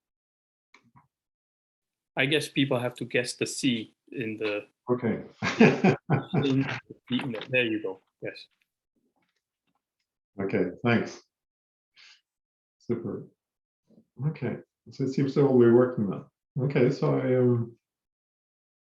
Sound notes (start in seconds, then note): 5.4 laughs